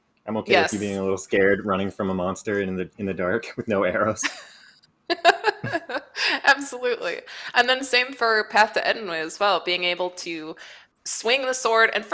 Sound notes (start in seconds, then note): 5.1 laughs